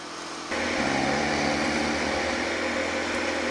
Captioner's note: snoring